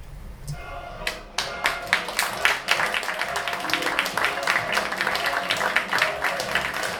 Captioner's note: applause